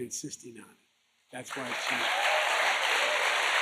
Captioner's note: applause